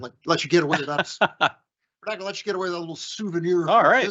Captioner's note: laughing